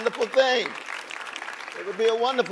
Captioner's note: audience applauding